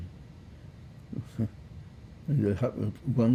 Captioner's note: laughing